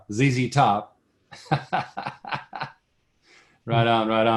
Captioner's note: laughs